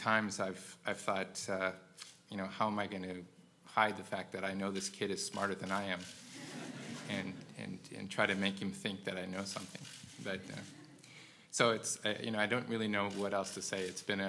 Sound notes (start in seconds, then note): 6.3 laugh